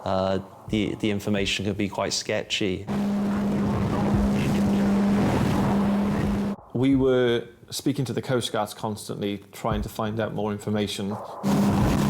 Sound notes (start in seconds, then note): 2.9 engine revs; 3.7 waves splash; 11.4 engine revs